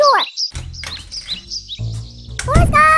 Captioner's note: door opens